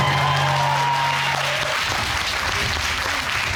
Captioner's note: applause